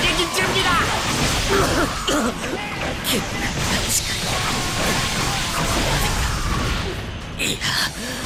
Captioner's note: cough!